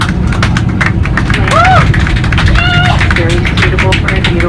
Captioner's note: cheering